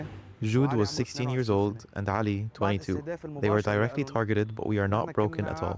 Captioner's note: speaking alternate language